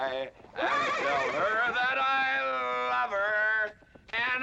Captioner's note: horse neighing